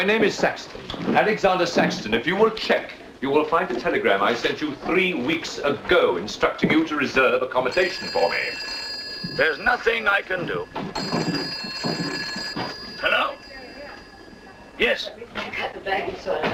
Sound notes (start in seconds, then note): 7.5 phone ringing